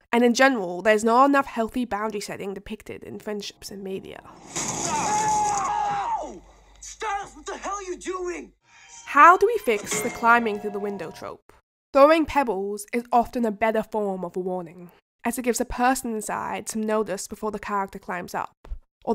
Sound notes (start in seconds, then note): 4.7 both screaming